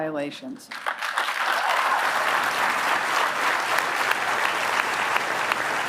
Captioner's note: applause